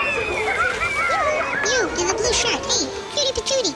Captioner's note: crowd screaming; fountain